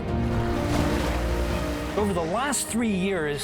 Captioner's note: water splashing